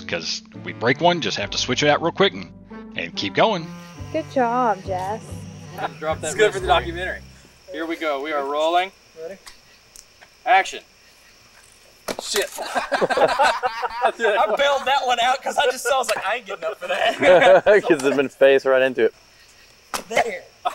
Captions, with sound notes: ‘cuz, we break one, just have to switch it out real quick and keep going. - Good job, Jess. - It’s good for the documentary. - Here we go. We are rolling. Action! - Shit! [laughter] I bailed that one out ‘cuz I just saw it and I was like-- “I ain’t gettin’ up for that!” [laughter] - ‘Cuz you would’ve just faced right into it.